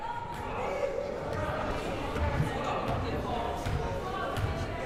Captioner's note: crowd murmuring